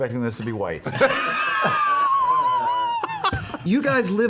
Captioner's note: laughter